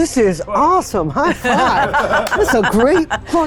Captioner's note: chuckling